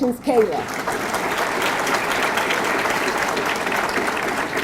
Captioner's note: audience clapping